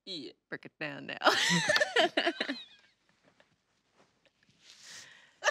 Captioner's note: laughs loudly